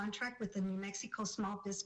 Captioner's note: speaking spanish